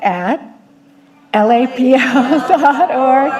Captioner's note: people chattering